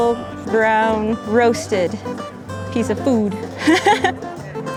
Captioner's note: laughs